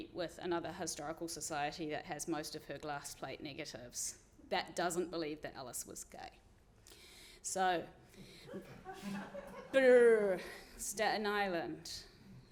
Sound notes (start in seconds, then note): 8.4 audience laughing